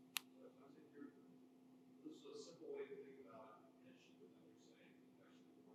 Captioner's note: speaker speaking faintly